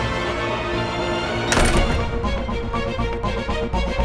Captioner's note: doors rattling